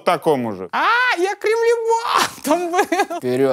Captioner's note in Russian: смеется